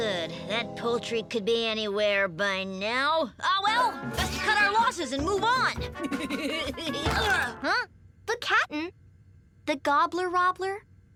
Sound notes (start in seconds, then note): 5.8 Milo giggling; 6.7 Milo grunts